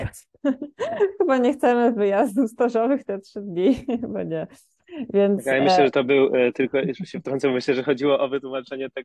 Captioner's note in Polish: śmiech